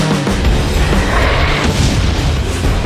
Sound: explosion

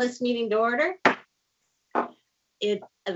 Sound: gavel taps

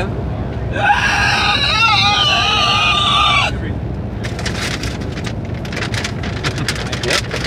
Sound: squealing

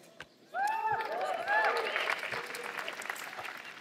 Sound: cheering

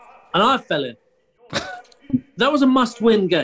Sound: chuckles

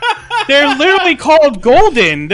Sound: laughs

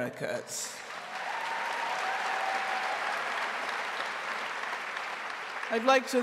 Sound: audience cheering and applauding

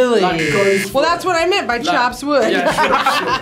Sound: laughs

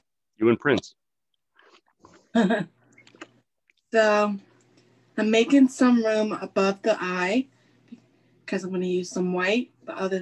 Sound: chuckles

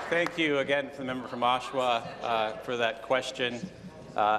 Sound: applause

